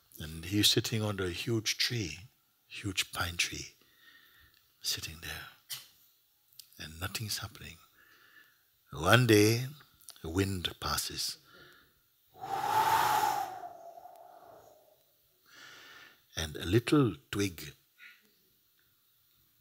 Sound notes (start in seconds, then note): 12.4 makes sound of wind blowing